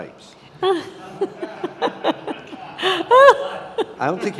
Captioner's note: laughing